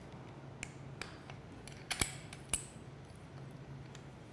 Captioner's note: tool clicking